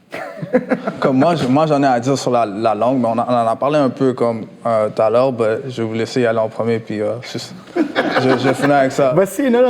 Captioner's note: laughs; laughs